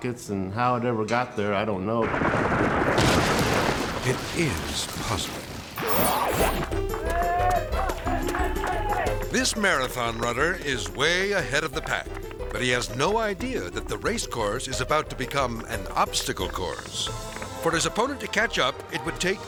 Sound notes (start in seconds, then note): 3.0 silo thuds; 7.5 people cheering